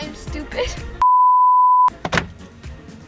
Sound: stand-by tone beeping; button clacking

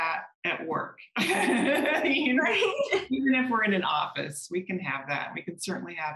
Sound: laughter

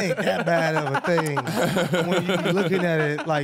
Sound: laughing

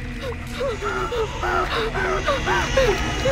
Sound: babies crying

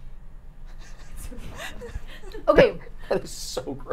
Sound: laughing

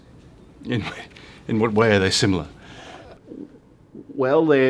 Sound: stifling a laugh

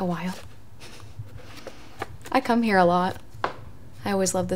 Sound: chuckles

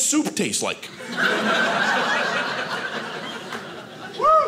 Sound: audience laughing

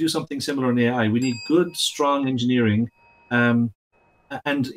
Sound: bell dings

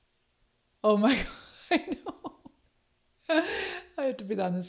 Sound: laughs

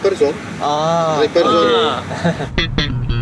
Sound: in polish

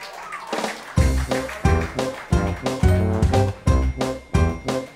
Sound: applauding

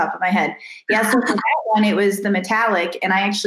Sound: laughs

